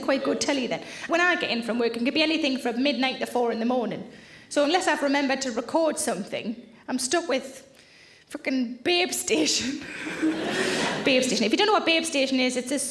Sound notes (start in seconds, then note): 10.0 audience laughs